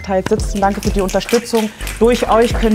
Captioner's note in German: Schnipsen